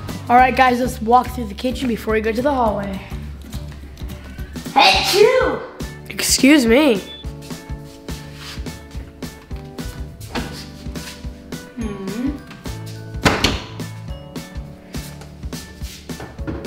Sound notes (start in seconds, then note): 4.7 sneezes; 9.9 pop music